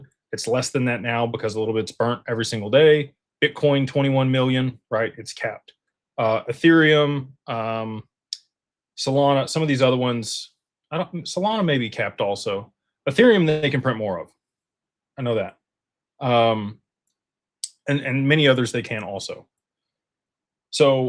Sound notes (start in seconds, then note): none